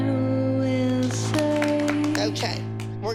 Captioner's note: applause